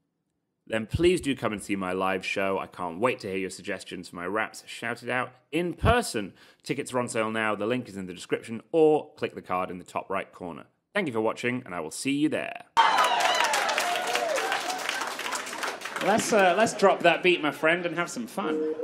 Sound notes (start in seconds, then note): 12.7 clapping and cheering